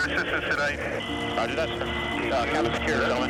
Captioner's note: man Over Radio; person Over Radio